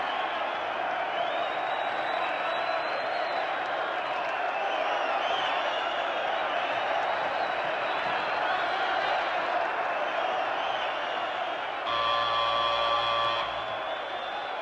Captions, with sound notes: Work it, Champ. [crowd noises]